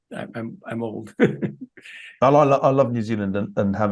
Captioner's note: laugh